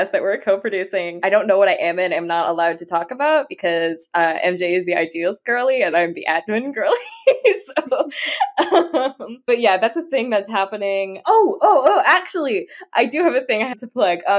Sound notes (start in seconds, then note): 7.9 laughs